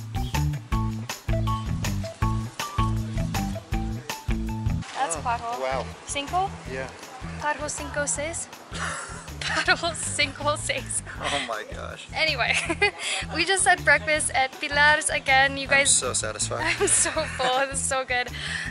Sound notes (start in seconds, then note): 8.8 laughter